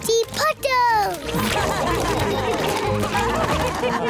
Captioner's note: all laugh